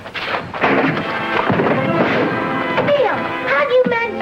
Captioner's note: jail door thuds